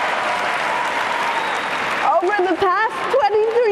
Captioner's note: cheering and applause